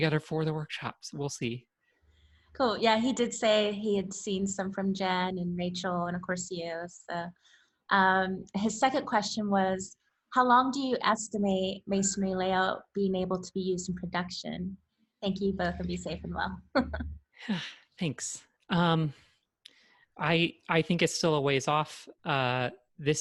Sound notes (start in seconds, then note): 17.4 laughs; 17.4 sighs